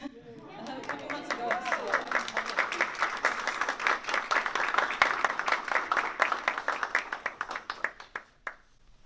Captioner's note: cheers and applause